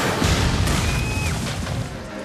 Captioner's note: screams